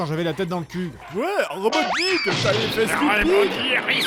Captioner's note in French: bruitages hystériques et insupportables